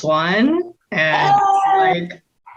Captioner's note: exclaims